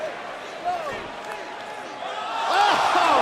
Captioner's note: crowd cheering